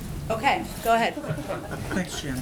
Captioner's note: laughter